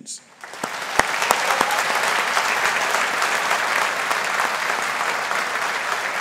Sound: audience applauding; audience cheering

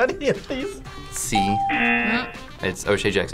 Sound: ding

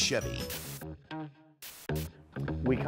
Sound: static noise

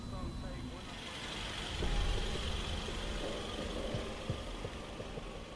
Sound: engine whirring

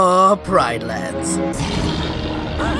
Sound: roar; whimpering

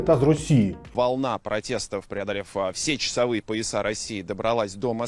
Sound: russian

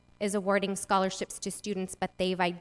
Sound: none

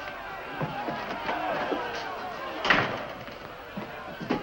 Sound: crowd yelling

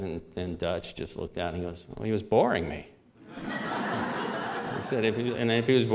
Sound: laughter

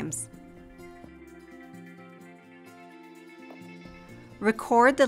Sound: Silenzio

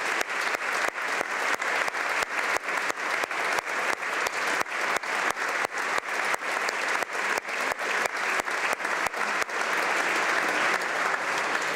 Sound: applause

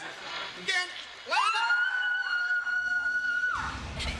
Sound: screaming

